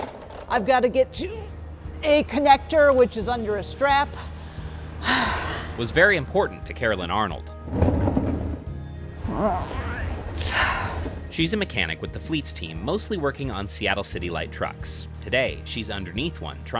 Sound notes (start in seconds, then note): 7.7 wheels rolling; 9.3 murmuring